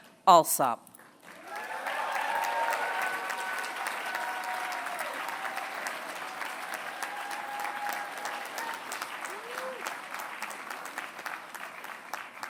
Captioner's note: applause